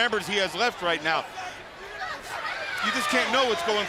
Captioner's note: crowd chatter